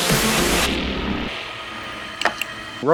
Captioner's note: motor Sound. Click, Click Sound